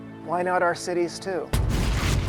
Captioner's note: thuds